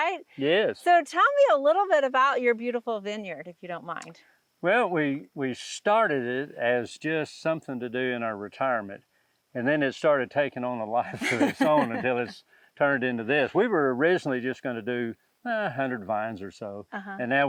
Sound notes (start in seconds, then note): 11.0 laughs